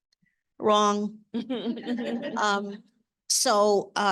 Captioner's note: audience laughing